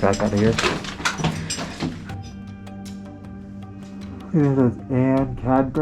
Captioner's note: metal clanking; footsteps